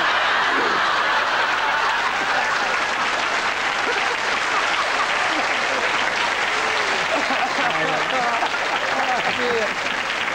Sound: lots of laughter and applause

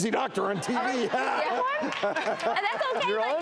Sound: laughs

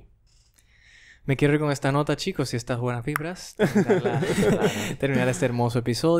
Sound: laughs

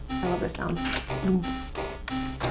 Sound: thwonk

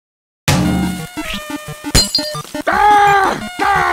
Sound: sizzling; screams; Peppino shouts

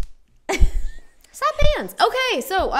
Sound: laughs

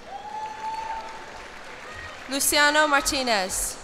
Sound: cheers and applause

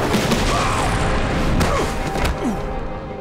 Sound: screaming; grunting

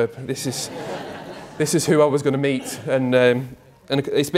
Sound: crowd: laughter

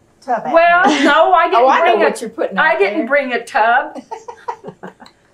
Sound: laughter

